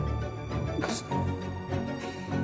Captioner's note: background music; scoffs